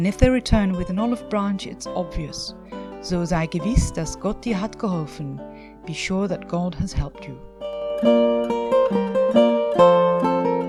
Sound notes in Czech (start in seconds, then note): 3.2 Německy